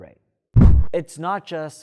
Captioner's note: air swish